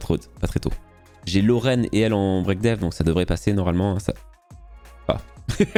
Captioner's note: oh shit, laughs